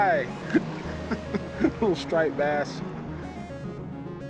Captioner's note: chuckling